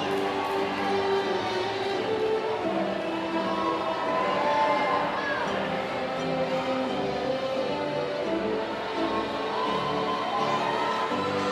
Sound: applause

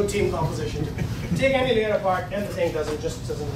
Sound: laughing

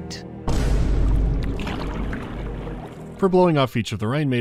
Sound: boom

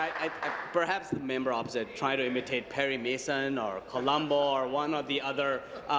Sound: applause

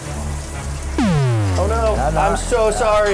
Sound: game over sound effect

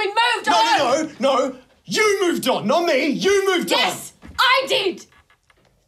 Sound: none

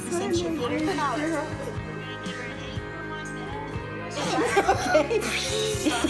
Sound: people chatting; laughing

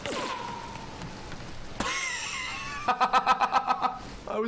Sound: laughs

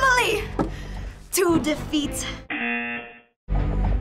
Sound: singing along; buzzer; singing along

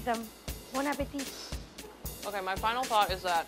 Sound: speaks French

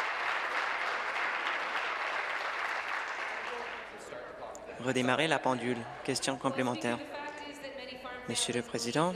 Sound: applause

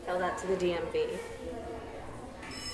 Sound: school bell rings

